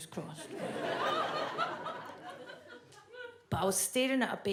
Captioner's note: audience laughs